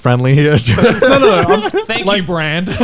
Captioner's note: guys laughing